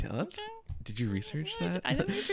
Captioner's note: laughs